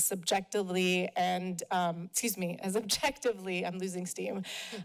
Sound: chuckle

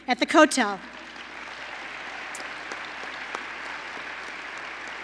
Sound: applause

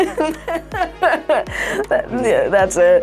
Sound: laughing

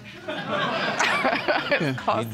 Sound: audience laughing

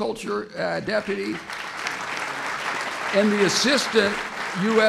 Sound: applause

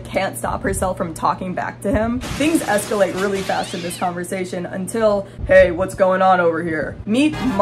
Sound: deep voice

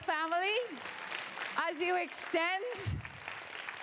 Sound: applause

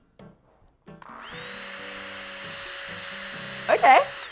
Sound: Gecko making loud humming noise

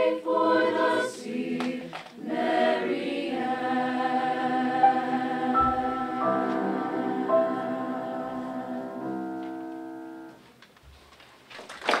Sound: applause

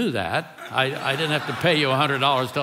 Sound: congregation laughing

